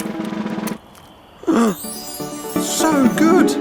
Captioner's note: dad gasps